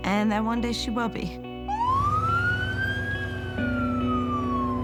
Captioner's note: sirens blaring